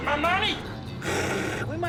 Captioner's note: imitates static